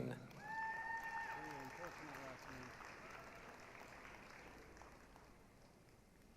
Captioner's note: applause, cheering